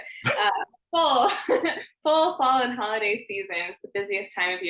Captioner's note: laughing